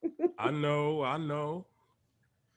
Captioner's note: Peaches laughs